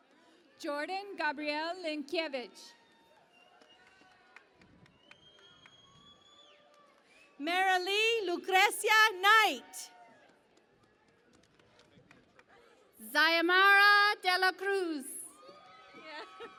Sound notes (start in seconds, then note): 0.0 cheering and Applause; 3.3 cheering and Applause; 10.3 cheering and Applause; 15.0 cheering and Applause